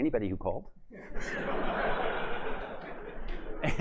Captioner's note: laughter